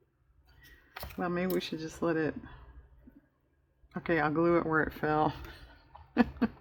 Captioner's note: laughs